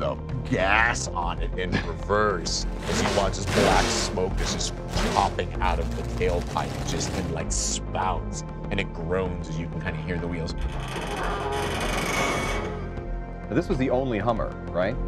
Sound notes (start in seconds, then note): 6.5 engine revving; 10.4 creaking